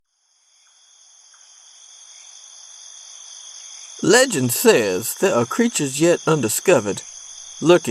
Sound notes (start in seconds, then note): 0.0 soundscape of nighttime local woodlands